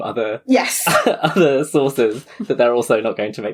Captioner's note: laughing